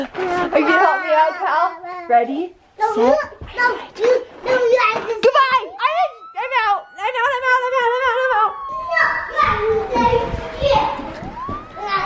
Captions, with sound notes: Are you gonna help me out, Cal? Ready, set. Goodbye, I'm out. I'm out, I'm out, I'm out, I'm out, I'm out! (sirens)